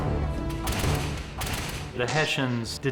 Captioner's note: guns firing